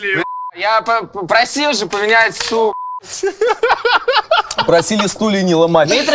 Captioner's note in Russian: смех